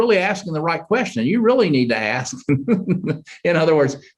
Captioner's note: chuckles